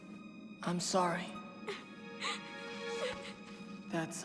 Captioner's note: crying softly